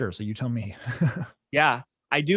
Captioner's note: laughing